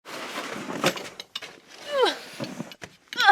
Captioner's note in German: Schlittenkratzen; grunzt